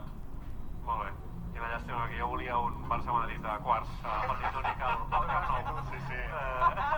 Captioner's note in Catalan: carcajadas